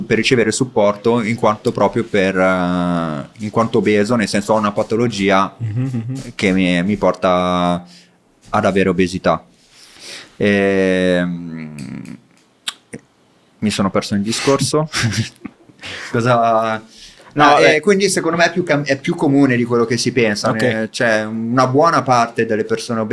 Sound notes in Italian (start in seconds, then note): 9.6 sbuffare; 14.9 risate